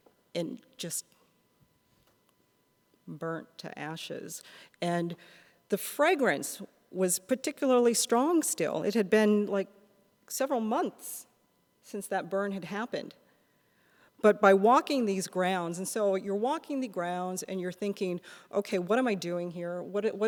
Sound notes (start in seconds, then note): none